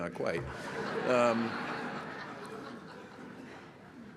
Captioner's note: laughter